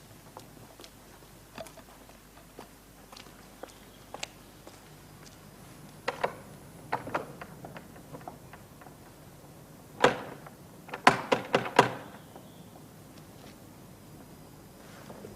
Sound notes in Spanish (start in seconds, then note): 6.3 Pegan a la puerta; 10.9 Pegan a la puerta